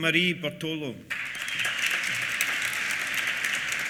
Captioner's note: applause